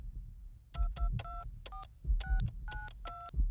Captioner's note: phone dialing; phone ringing